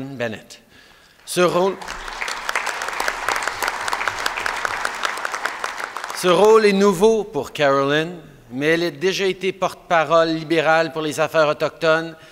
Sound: applause

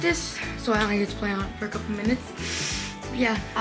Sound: sniff

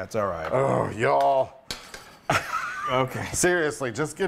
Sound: laugh

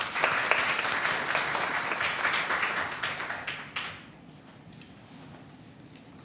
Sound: applause

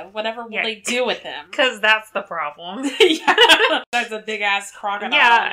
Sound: laughs

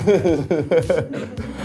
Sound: laughing

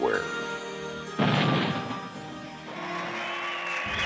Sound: explosion; crowd applauding

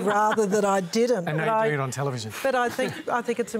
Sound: laughter

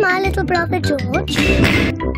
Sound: quick double snort

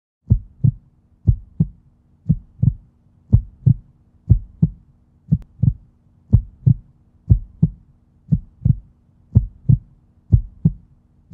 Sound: heartbeat relaxing sound

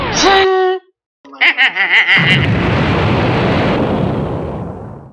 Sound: maniacal laugh and explosion

